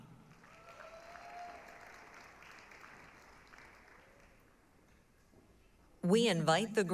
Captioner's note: applause, cheering